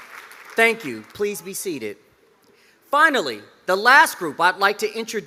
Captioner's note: cheers and applause